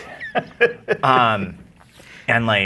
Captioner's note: laughing